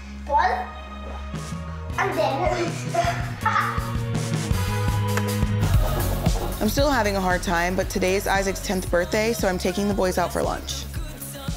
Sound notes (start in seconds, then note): 2.8 laughs; 11.3 upbeat music